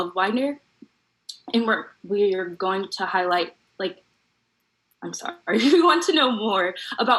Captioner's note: laugh